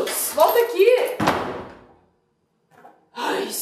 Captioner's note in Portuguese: porta batendo